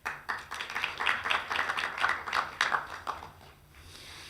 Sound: clapping

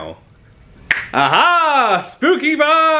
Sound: fingers snap

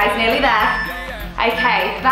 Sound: timer beeping

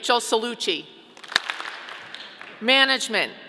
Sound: audience clapping

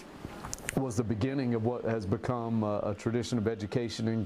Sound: nats of street noises

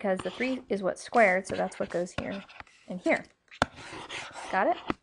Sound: scribbling sounds

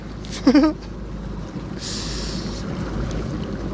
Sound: laughter

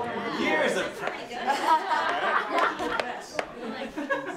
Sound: laughing

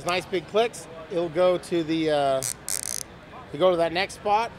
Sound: tie buzzes

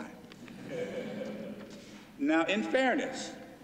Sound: laughter

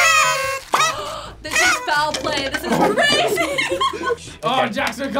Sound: horns honk; gasps; laughs

